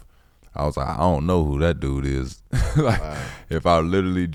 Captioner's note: laughs